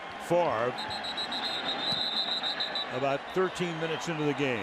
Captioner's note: whistle blows